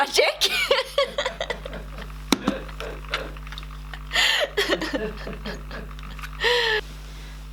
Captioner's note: laughing